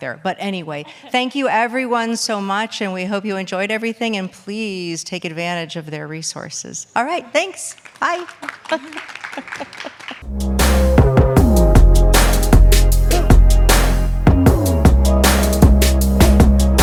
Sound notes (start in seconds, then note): 7.9 attendees applauding; 10.2 energetic music